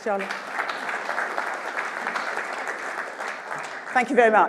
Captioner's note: applause